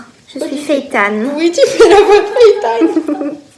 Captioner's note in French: rire